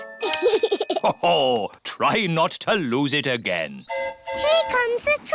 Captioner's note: giggles; train horn hooting